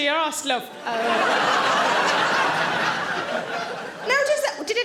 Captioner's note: audience laughing